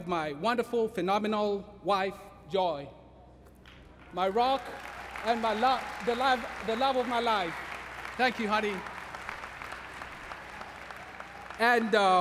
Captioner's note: applause